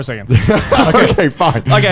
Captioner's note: all laughing